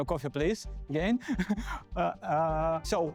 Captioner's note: laughter